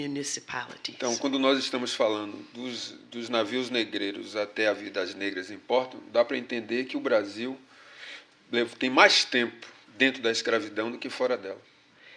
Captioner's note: speaking portuguese